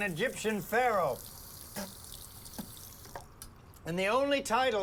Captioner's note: water splashes; Chris spits